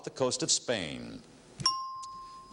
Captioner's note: ringing bell